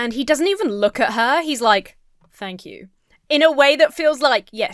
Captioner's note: none